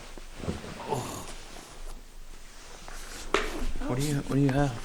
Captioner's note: fabric rustling